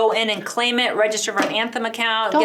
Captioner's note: hand hitting table